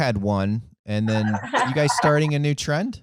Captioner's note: laughs